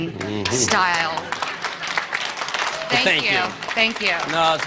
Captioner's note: applause